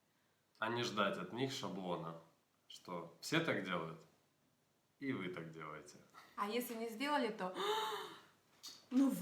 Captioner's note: gasps audibly